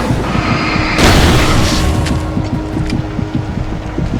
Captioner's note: burst